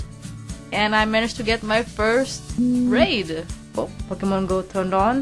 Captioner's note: phone vibrated